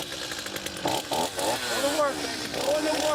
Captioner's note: revving